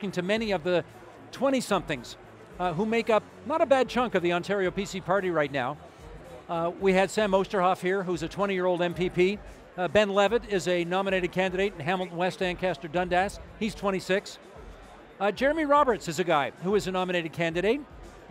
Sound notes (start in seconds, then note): none